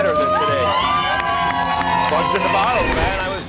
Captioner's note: cheers